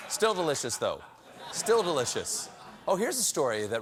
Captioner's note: laughter